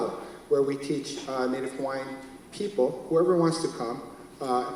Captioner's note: none